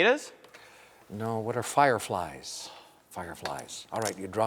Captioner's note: sighs